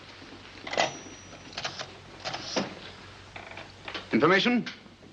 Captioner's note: phone dial clicks